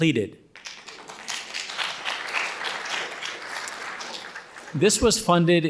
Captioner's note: audience applauding